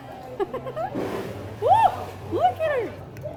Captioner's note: laughs